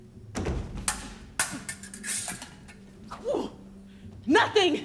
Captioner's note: swords clang